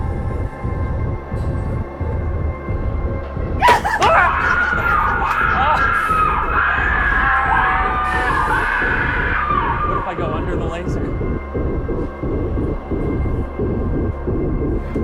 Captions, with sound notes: (loud smack) (maniacal cackling) (canned shrieking resumes) What if I go under the laser?